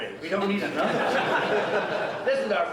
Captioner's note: audience laughing